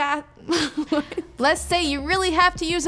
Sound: chuckles

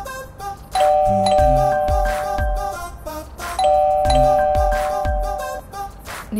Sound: calling bell 00:09:54:291

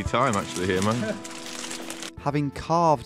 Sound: laughing

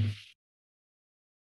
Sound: mic thumps

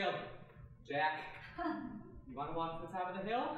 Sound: giggling

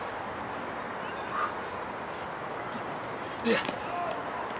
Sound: exhales

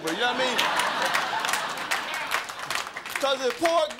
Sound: crowd laughing

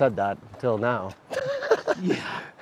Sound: laughs

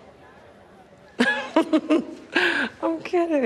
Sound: laughs

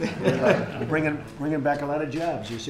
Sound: laughter

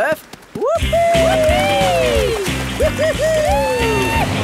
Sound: both whooping

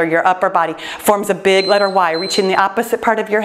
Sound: timer beeps

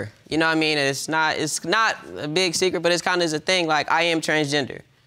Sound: stammering

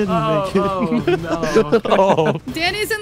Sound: laughing

